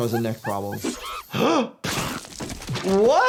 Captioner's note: doctor gasps